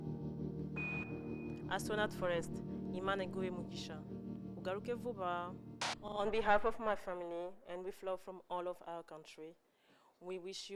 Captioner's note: speaking kinyarwanda